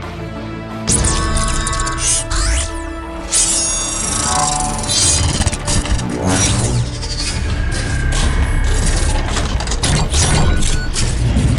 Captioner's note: mechanical Sound Effects